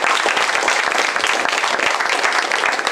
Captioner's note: applause